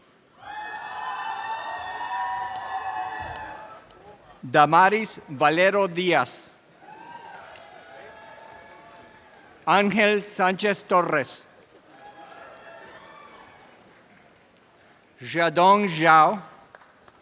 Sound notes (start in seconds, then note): 11.8 audience cheering and applause